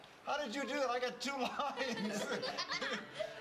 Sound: laughter

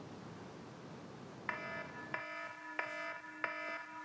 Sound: phone alarm blares

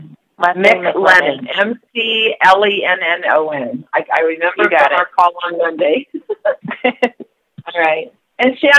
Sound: chuckle

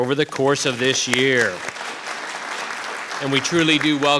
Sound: audience clapping

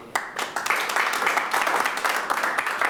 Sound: clapping

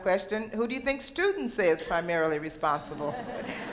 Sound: audience laughter

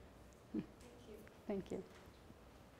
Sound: voiceover

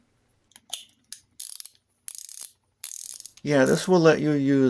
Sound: ratchet sounds

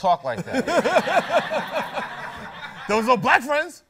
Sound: laughter

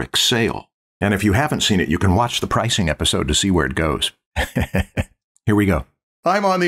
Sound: laughter

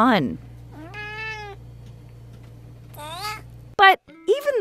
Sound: meows

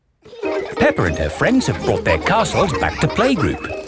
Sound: children laughing

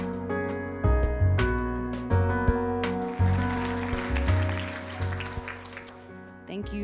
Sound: applause

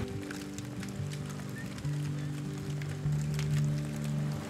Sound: fire crackling; gentle guitar music continues

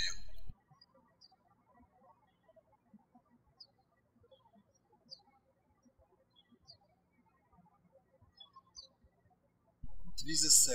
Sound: birds chirping

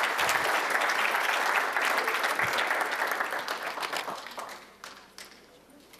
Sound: applause

